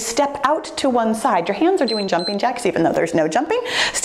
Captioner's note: timer beeps